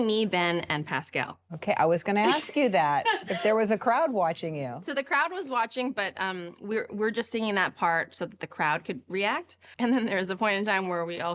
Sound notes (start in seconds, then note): 2.2 laughs